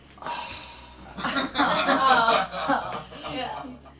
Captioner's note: laughing